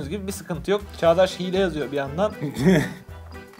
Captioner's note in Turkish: gülüşme